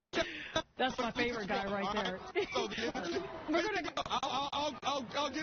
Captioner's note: laughter